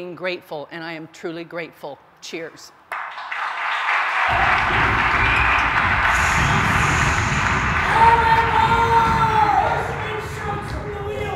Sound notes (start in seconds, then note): 2.9 applause; 7.5 shouting